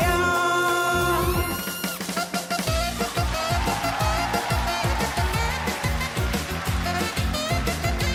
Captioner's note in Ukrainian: оплески